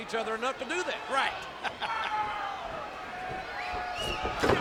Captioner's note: chuckles